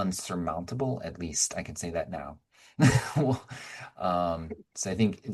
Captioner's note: chuckling